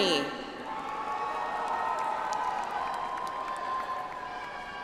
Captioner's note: audience applauds